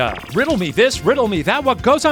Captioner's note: digital pulsing